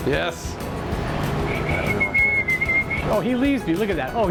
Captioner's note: whistling